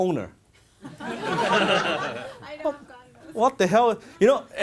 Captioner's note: audience laughter